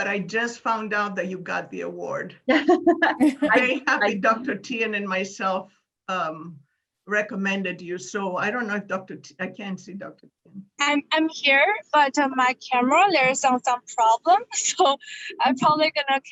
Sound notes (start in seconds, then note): 2.6 laughing